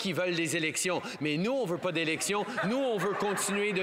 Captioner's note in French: voix de l'interprète